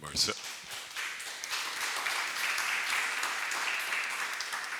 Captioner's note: crowd applauding